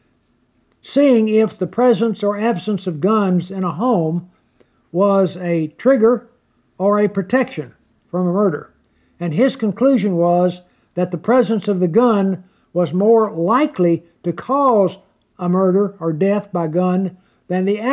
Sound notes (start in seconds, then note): none